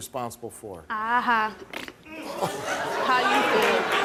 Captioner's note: blows a raspberry